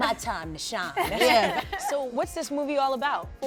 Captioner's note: laughs